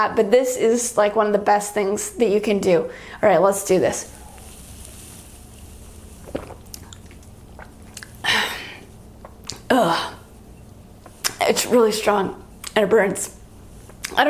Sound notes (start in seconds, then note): 6.3 gulping; 8.0 exhales; 9.6 groans